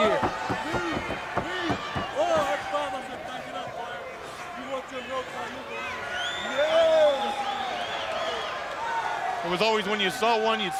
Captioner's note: crowd chatter